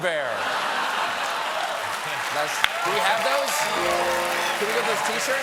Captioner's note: cheers and applause